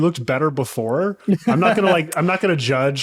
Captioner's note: laughing